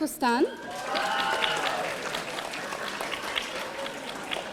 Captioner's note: audience applauding